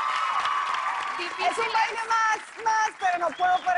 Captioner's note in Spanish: Aclamaciones